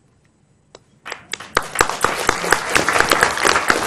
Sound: applause

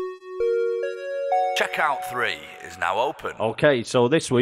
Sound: chime

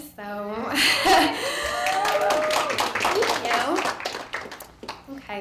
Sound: clapping

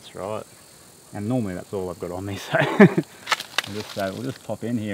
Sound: laughing

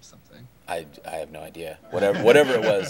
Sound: laughing

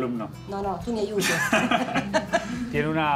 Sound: laugh

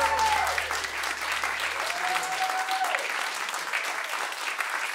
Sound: cheers and applause

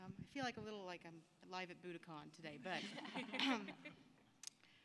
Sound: laughter

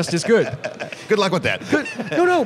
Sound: laughter; laughs

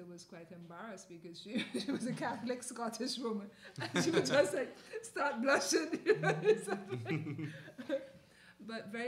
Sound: laughter

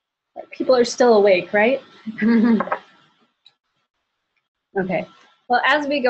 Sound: laughter

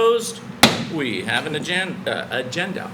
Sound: gavel bangs

